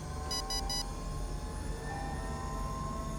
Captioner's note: beeping